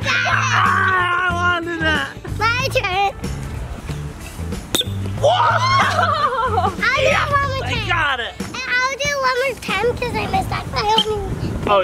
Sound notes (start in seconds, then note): 0.0 yells; 4.8 toy squeaks; 5.2 cheering